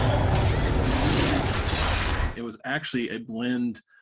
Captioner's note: monster growls; slicing